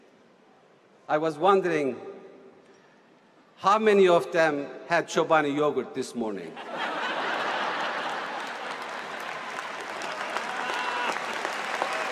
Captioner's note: laughter and applause